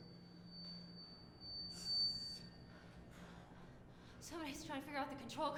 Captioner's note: high pitched speaker feedback